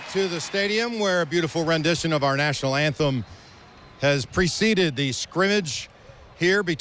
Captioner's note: applause